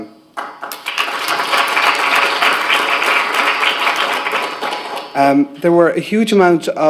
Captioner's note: applause